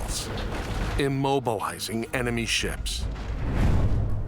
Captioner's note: mast crashes